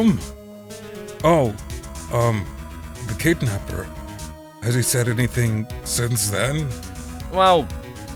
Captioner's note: whispering